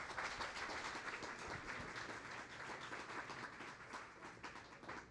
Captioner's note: audience applauding